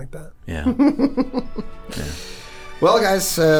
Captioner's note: Charlie chuckles